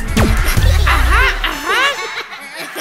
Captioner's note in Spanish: Risas